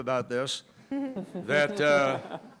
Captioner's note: audience giggles